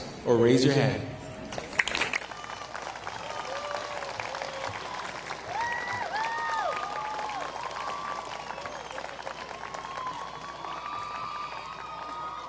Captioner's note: applause